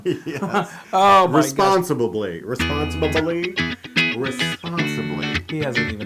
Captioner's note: laugh